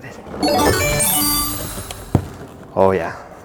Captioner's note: video game sound effect